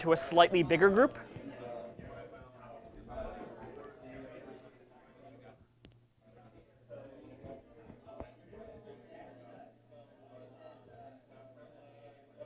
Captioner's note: background Discussion